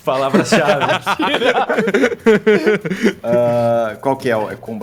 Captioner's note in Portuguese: Risos